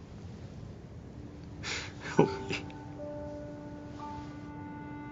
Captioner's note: sobs